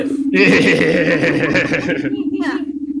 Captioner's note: giggling